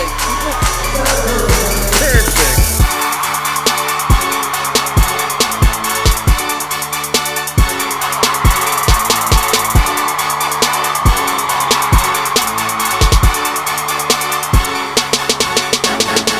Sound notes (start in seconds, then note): 0.3 twinkling techno music; 2.9 cheering